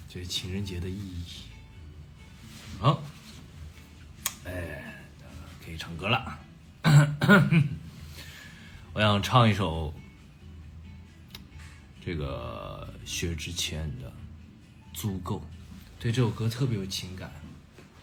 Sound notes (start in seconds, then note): 6.8 cough cough